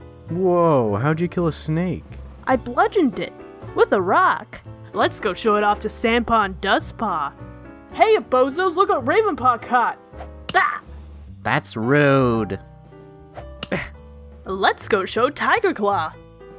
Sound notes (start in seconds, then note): 10.4 smack; 13.5 Firepaw grunts; 13.5 smack